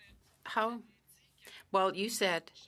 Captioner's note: speaking French